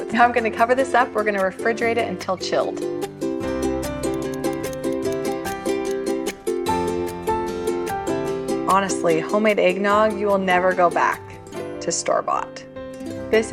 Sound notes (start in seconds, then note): 4.1 clock ticking; 4.1 cheerful music